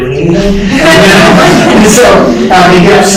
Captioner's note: laughter